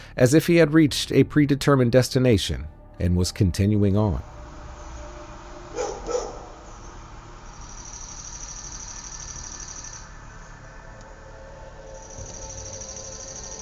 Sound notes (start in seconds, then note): 5.7 dog barking; 7.8 dramatic music